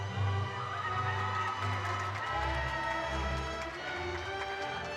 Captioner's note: audience cheering